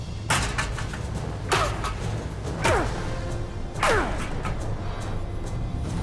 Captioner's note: grunting